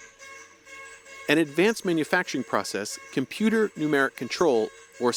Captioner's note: voice-over